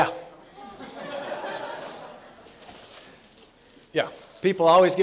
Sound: laughter

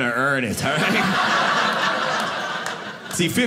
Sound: audience laughing

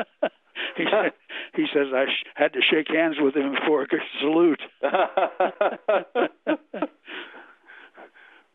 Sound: both laugh

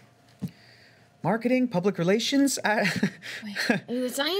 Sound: nervous chuckle

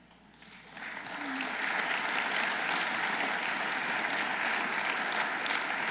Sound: audience applauding

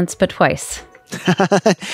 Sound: laughter

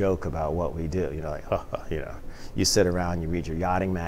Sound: chuckles

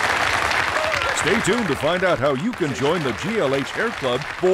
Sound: applause

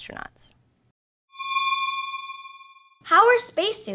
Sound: eerie space sound

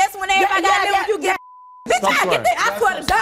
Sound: beep

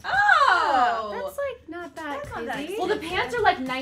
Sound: murmurs

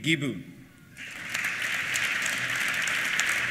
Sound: applause

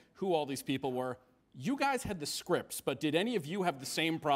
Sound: none

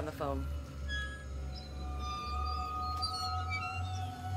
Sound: swing creaking

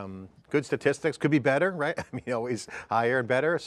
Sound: laughs

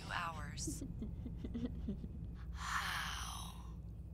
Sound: laughter

